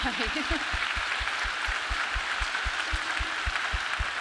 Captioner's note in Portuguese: público aplaudindo